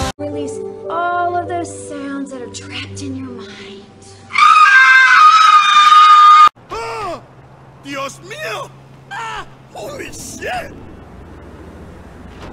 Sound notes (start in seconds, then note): 4.2 screeches; 6.6 yells